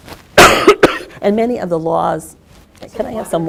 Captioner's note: coughs